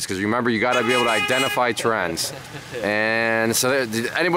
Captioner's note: horn honking